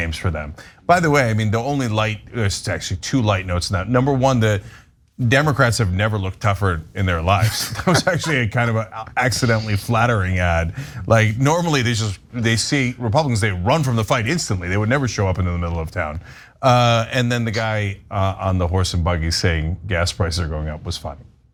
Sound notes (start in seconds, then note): 7.4 laugh